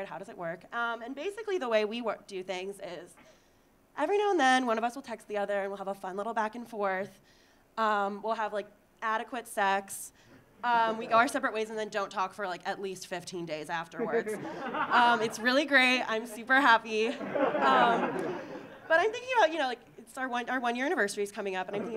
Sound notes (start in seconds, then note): 14.0 audience laughing; 17.0 audience laughing